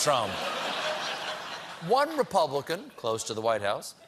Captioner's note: laughter